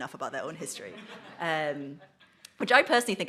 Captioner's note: audience laughs